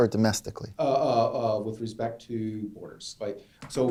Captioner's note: voiceover